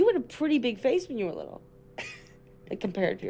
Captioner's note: chuckles